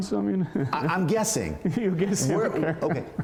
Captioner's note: laughter